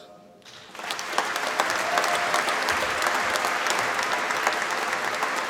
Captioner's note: applause